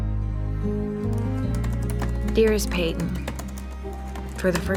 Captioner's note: typing